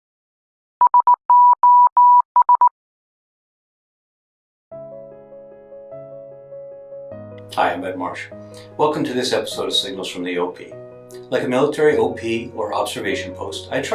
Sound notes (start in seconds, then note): 0.8 electronic beeping; 5.0 light piano music